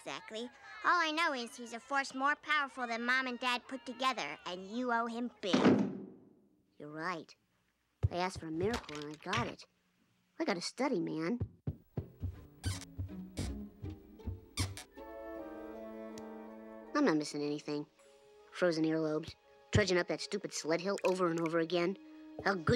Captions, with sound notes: ALL I KNOW IS, HE'S A FORCE MORE POWERFUL THAN MOM AND DAD PUT TOGETHER, AND YOU OWE HIM BIG. [ Door Slams ] YOU'RE RIGHT. I ASKED FOR A MIRACLE AND I GOT IT. I GOT TO STUDY, MAN. I'M NOT MISSING ANYTHING. FROZEN EARLOBES, TRUDGING UP THAT STUPID SLED HILL OVER AND OVER AGAIN.